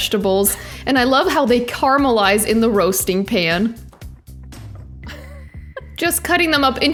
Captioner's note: laughs